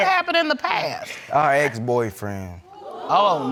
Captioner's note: crowd gasps